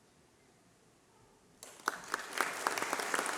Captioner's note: applause